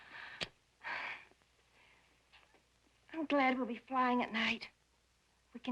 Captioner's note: sighs